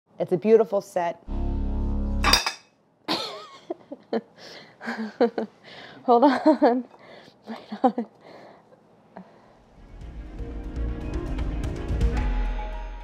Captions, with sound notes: - It's a beautiful set. (sinister music) (chuckling) Hold on. (dramatic music)